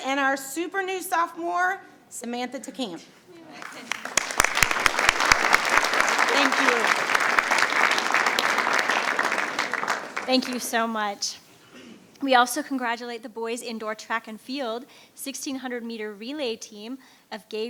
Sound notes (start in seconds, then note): 3.6 attendees applauding